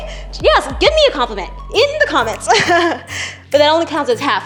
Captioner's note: laughs